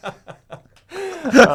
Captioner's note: laughing